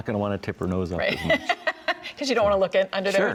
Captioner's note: laughs